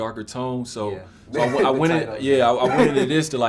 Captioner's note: laughing